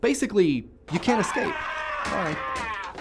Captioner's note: screaming